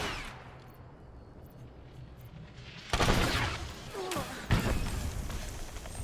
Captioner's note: gunshots